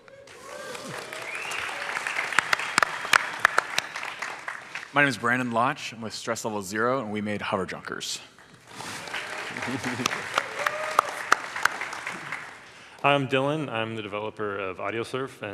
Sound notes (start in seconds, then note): 0.0 audience applauds; 8.7 audience applauds